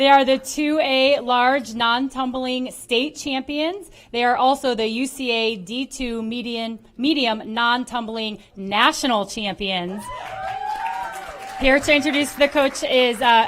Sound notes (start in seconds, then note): 10.0 applause